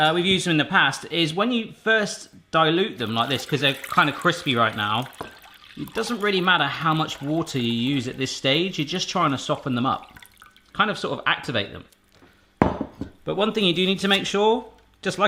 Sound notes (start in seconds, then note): 12.6 clunking